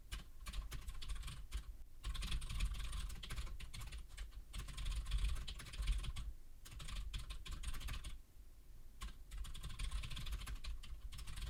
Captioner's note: typing sounds